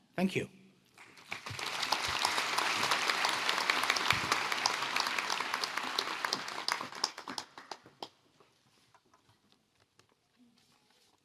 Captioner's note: applause